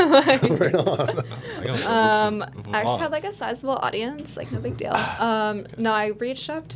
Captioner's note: laughing